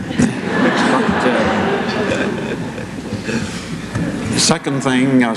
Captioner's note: laughter